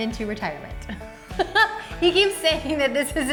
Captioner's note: laughs